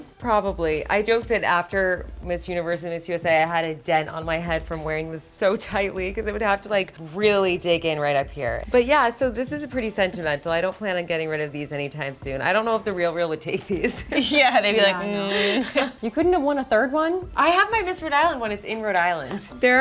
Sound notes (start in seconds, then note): 15.4 laughing